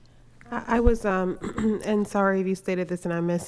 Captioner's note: laughing; clears throat